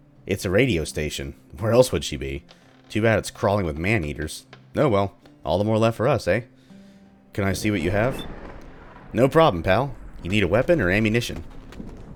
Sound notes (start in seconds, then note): 7.4 thunder